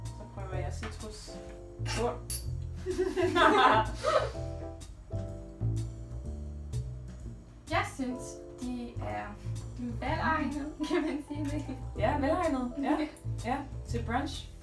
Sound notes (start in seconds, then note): 2.8 both laugh